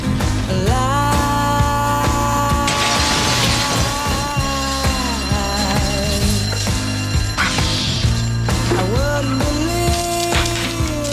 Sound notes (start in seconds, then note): 3.1 burglar alarm rings